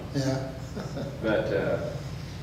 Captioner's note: chuckles